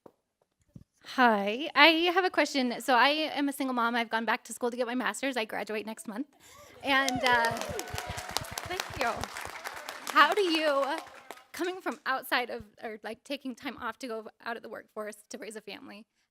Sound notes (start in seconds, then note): 6.6 applause